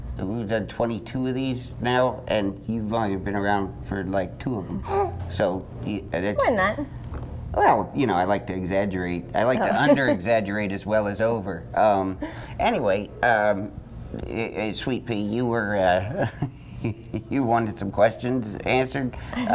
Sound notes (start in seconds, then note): 4.7 baby grunts